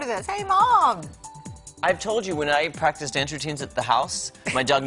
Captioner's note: laughter